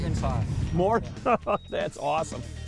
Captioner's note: chuckling